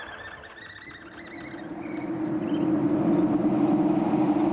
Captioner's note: air whooshing